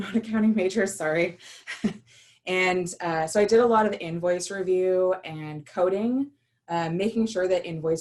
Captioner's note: laughter